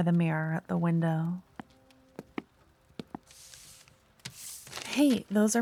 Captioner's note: footsteps, paper being picked up